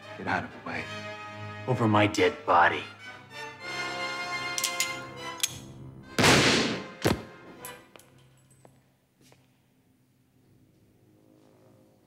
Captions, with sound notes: Get out of the way. - Over my dead body. (dramatic music) (gun clicks) (gun fires)